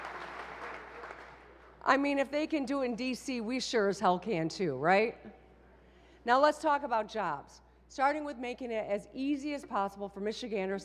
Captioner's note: applause